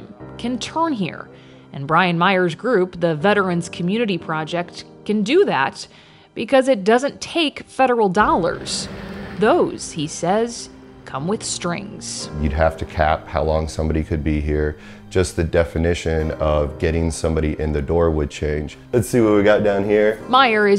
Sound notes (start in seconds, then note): 8.2 vehicle revving